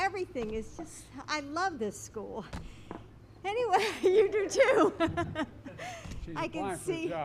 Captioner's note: laughs